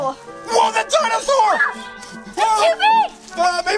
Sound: girl screams

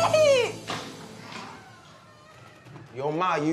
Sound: door creaks

